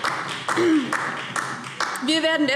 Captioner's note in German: Beifall DIE LINKE